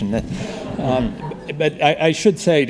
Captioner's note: audience laughing